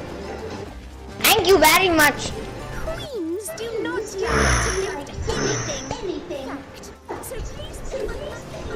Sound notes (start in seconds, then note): 4.4 in monster voice; 5.8 mic silence and only music